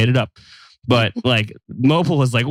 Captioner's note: giggles